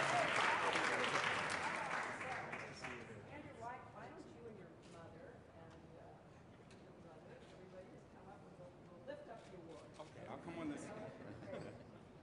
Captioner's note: applause